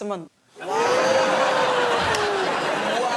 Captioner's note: laughter